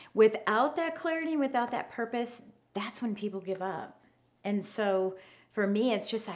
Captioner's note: none